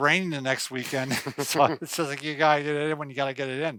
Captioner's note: both chuckling